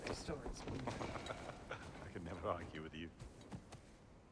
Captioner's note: laughs